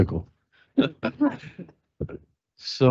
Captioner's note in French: rires